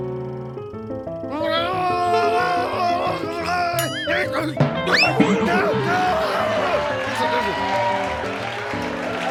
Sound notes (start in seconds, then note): 1.3 suspenseful music; 3.8 boing; 4.5 thud; 6.4 audience laughing